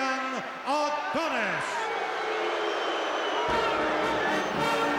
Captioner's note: crowd boos